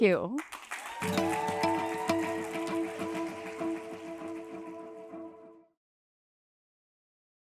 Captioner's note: applause and cheering